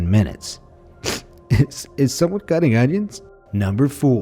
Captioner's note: sniffs